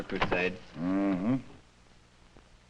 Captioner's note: disinterested murmuring